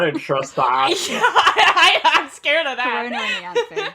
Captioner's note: laughing